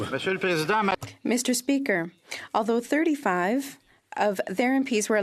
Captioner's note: some Applause